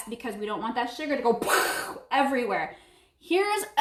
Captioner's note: imitates blowing